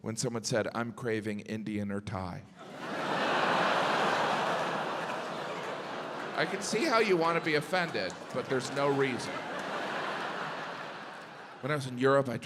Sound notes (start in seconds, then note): 2.6 audience laughs